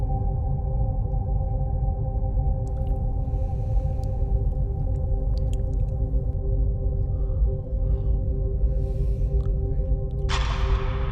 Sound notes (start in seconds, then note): 2.7 Cornelius chewing